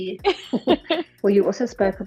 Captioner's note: chuckle